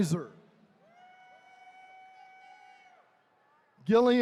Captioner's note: attendees cheering